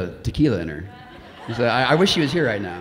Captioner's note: audience laughing